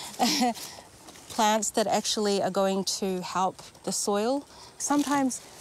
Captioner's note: chuckles